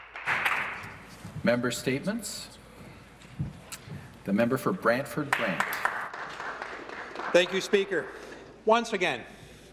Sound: some Applause

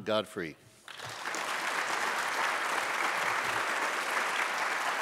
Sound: audience applauds

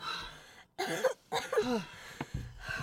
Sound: coughing; heavy breathing

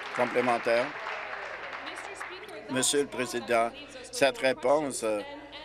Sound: applause

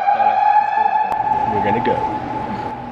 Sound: alarm ringing

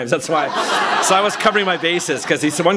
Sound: laughter

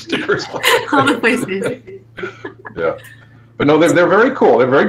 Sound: all laughing

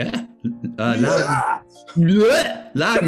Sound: roars

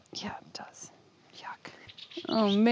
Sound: none

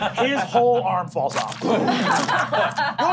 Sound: crackling; laughing

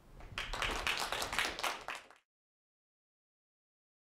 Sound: applauding

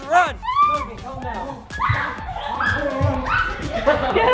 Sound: squealing

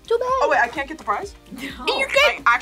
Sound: laughs

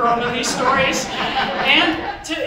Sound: audience chuckles

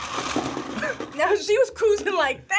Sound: laughs

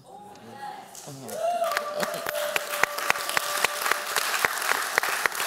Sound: applause

